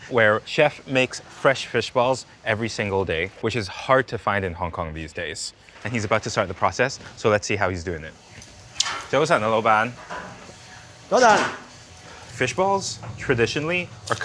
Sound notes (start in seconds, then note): 9.1 speaking in foreign language